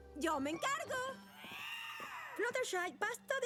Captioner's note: shriek